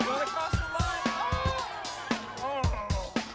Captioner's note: cheering continues